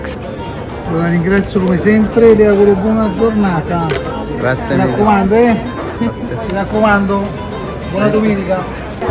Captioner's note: italian